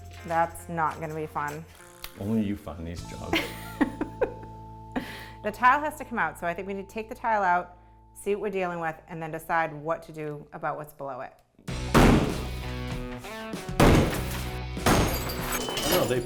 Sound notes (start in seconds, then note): 3.3 laughing; 11.9 hammer banging